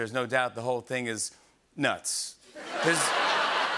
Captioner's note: laughter